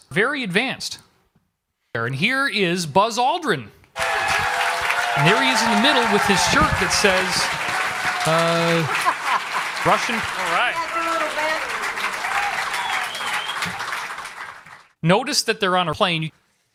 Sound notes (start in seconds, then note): 3.9 applause